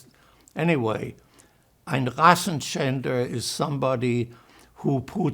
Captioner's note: german